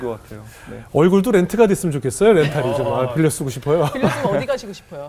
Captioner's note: laughing